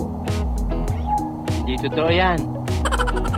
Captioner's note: envy tone